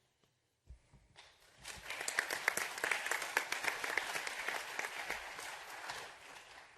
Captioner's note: applause